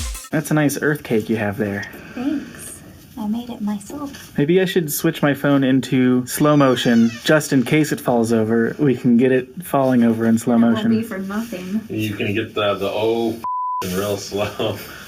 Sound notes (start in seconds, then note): 0.0 dance music; 6.4 creaking